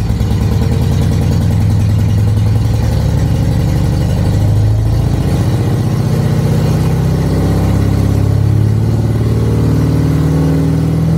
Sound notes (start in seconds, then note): 0.3 engine speed picks up; 6.6 engine revving higher still